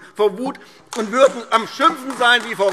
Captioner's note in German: Beifall AfD